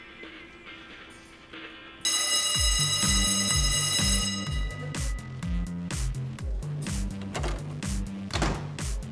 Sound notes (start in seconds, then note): 2.0 school bell ringing; 4.8 dynamic music playing